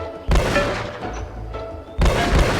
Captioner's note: gun banging; bright music